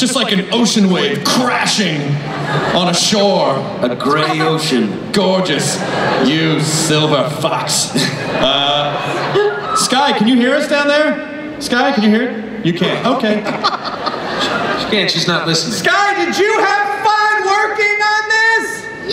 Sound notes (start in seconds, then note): 12.8 laughter